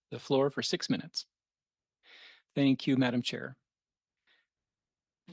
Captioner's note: speaking French